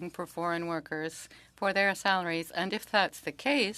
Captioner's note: speaking French